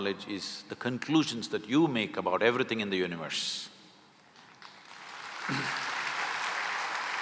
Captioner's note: applause